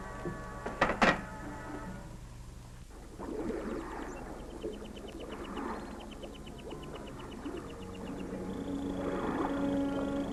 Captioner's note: waves lapping